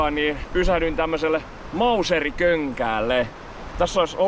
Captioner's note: Mauser waterfall